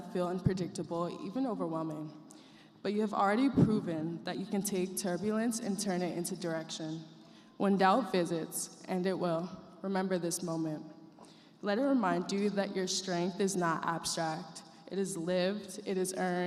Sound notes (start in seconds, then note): none